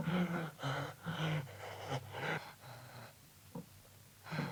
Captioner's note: Kurt gasping